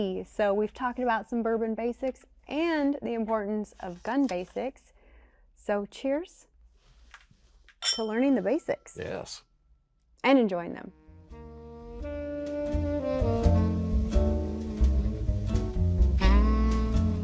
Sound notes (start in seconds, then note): 7.8 glasses clicking; 10.7 jazz music